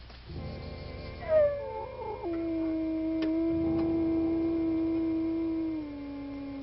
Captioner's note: eerie music; wolves howling